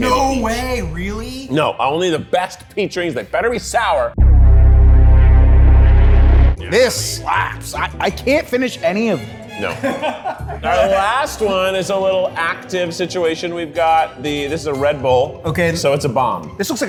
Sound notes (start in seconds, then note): 4.2 pensive music; 9.9 crew laughs